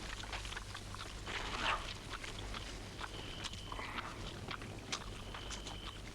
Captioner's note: Torente voraciously chomping; meat ripping